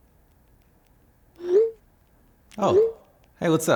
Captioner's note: phone chimes